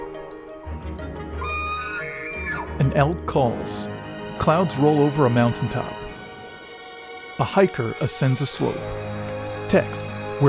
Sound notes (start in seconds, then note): 1.3 elk screaming; 4.5 tense music